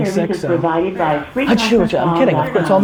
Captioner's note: fake sneezes